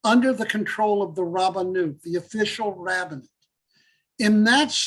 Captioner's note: Hebrew